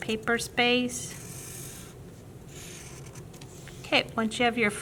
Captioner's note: scratching marker